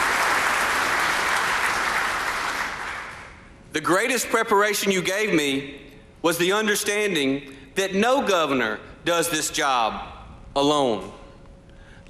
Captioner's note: applause